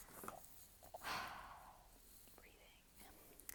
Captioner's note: exhale